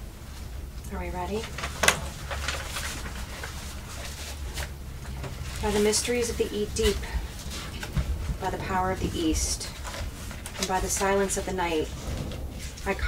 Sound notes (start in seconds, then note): 1.7 paper rustling; 1.7 pen clanking